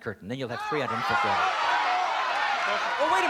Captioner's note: shouting